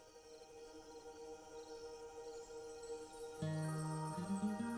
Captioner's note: crickets chirping